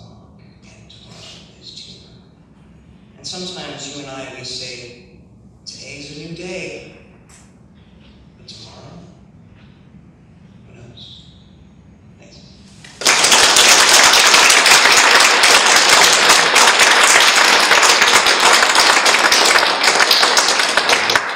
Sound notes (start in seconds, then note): 12.8 audience claps